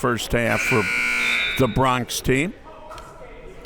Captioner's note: buzzer ringing